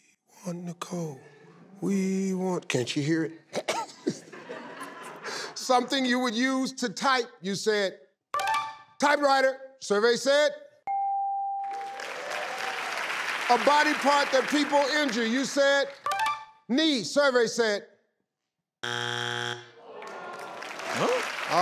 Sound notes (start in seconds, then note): 3.5 Steve laughs; 10.8 bell dings; 11.6 audience applauds; 18.8 buzzer dings; 19.8 audience applauds